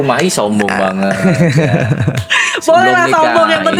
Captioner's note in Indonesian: tertawa